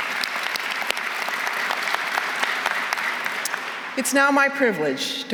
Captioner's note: applause